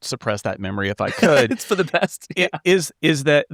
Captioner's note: laughing